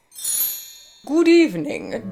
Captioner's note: magical chime